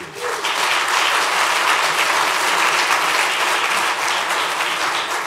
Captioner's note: applause